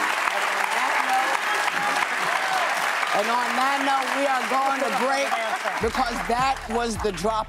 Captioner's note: laughter and applause